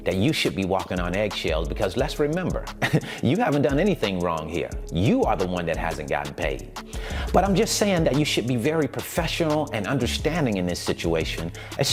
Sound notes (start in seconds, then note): 2.7 chuckling